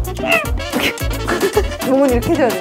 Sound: laughing

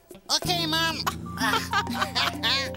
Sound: both laughing

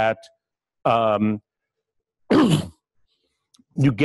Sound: pause

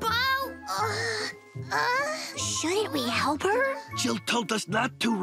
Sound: grunting

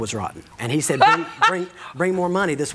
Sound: laughs

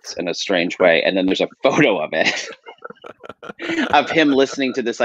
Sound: laughs

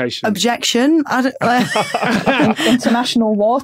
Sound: group laughing

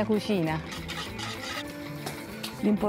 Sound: speaking Italian

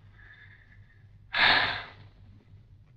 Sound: sighs

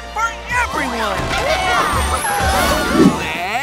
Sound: cheering

